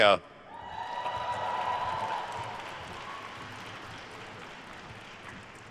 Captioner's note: attendees cheering and applauding